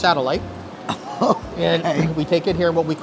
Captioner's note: laughs